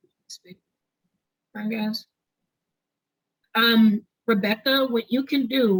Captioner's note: audio cuts out